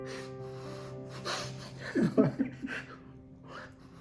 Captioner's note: both crying